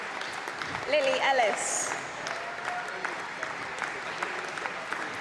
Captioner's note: applause